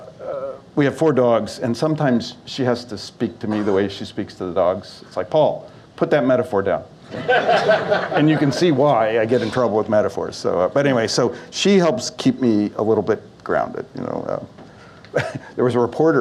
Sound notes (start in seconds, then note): 7.1 audience Laughs